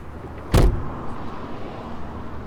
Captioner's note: trunk slams shut